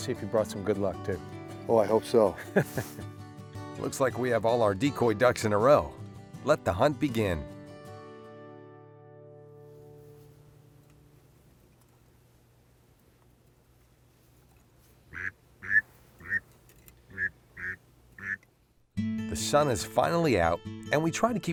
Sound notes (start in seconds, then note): 15.6 sounds of a duck call